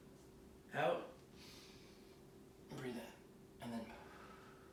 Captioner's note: inhaling